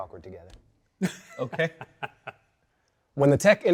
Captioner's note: guests laughing